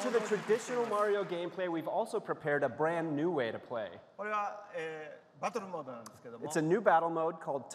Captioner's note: applause